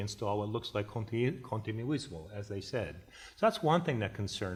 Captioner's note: foreign language